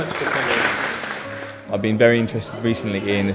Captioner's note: applause